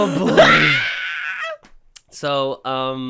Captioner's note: screams